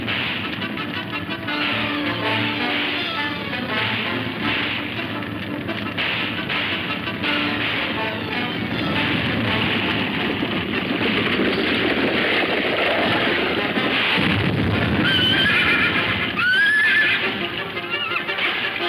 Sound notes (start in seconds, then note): 11.3 explosion booms; 11.3 gun fires; 15.0 horses whinnying